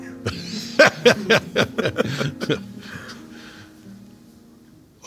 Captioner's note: J.K. and Josh laughing